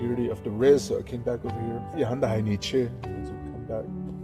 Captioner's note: speaks foreign language